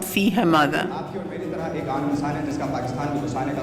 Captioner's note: non-english speech